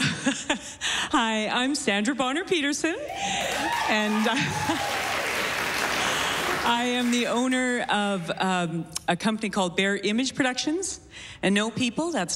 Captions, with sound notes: -HELLO. HI, I'M SANDRA BONNER-PEDERSON... [CHEERING] AND I AM THE OWNER OF A COMPANY CALLED BEAR IMAGE PRODUCTIONS,